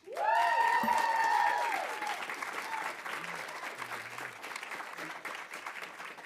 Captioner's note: audience cheering; audience applauding